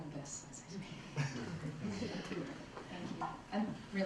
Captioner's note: laughter